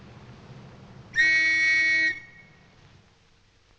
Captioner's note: blows whistle